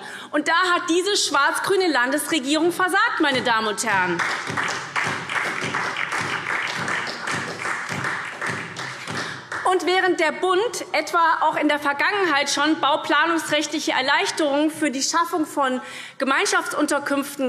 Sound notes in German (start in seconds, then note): 3.8 Beifall SPD